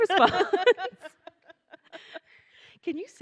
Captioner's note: laughing